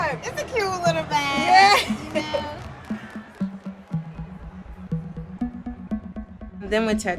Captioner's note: laughs